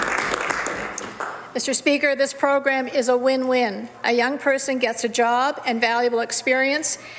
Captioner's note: some Applause